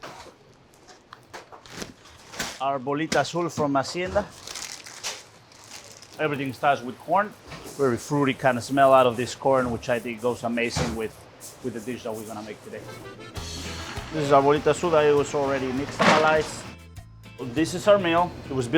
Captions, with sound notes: (speaking in foreign language) - Everything starts with corn, very fruity kind of smell out of this corn, which I think goes amazing with the dish that we're gonna make today. (speaking in foreign language) Already nixtamalized, this is our mill,